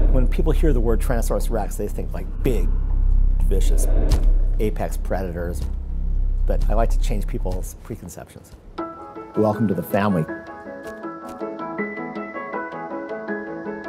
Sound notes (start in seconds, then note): 4.0 thundering footstep; 10.4 light music